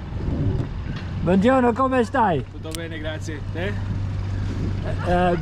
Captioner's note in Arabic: يتحدث الايطالية